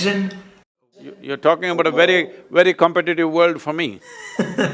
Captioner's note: laughter